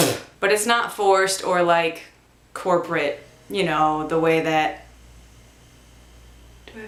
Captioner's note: spits; motor starts running